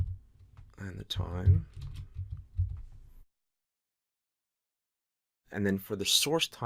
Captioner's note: typing